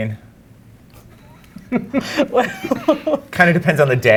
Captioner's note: laughs